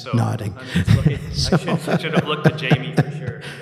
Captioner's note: laughing